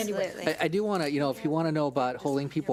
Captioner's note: speaks off mic